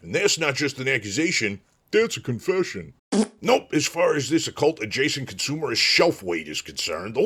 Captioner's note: fart